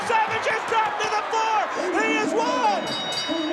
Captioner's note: ring bell dinging